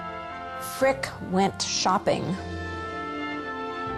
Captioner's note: voiceover; gentle orchestral music